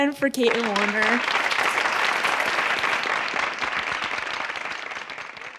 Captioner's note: applause